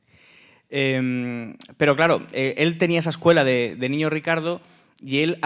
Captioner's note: speaking in Spanish